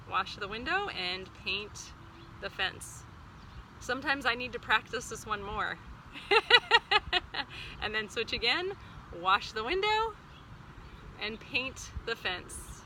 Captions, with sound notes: wash the window and paint the fence. Sometimes I need to practice this one more, (laughs) and then switch again, wash the window and paint the fence.